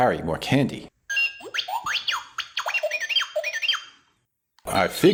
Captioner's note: robot beeping!